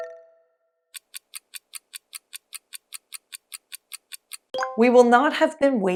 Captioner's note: clock ticking